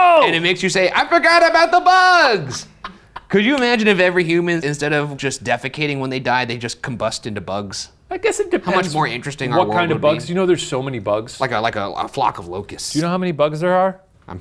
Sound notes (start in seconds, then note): 2.4 laughs